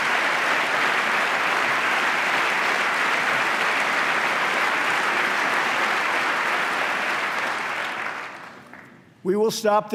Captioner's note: applause